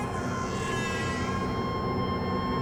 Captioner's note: baby crying